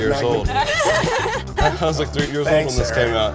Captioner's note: laughing